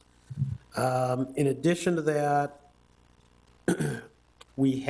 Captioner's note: coughs